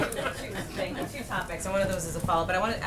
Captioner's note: laughter